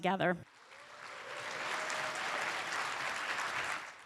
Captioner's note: applause